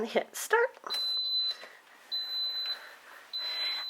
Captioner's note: beep, Beep